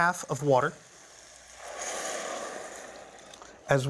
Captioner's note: sizzling